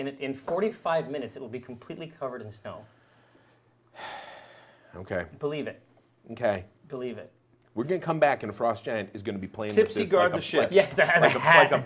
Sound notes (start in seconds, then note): 3.9 big sigh